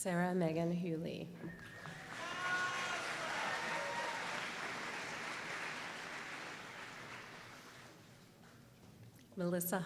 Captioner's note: applause